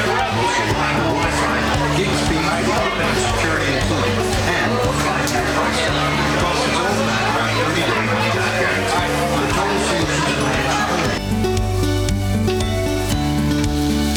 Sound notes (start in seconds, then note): 0.5 applause